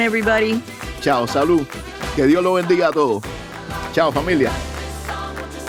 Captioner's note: speaking in Spanish